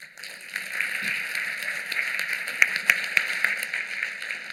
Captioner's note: applause